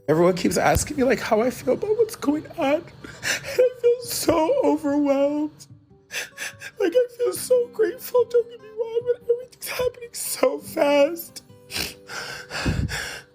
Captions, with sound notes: - Everyone keeps asking me like, how I feel about what's going on, and I feel so overwhelmed. (sobbing) I feel so grateful, don't get me wrong, but everything's happening so fast. (sniffles)